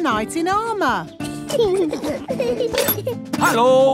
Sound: children giggling

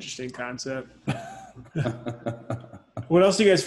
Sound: laughing

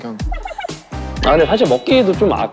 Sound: lol

